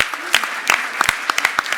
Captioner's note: applause